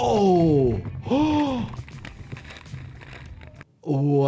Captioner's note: doctor gasps